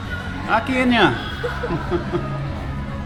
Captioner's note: she laughs